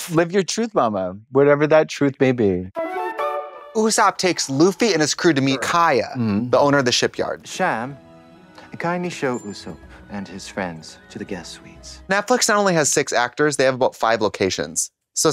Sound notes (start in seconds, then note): 4.3 bright chime